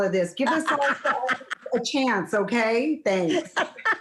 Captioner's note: laughs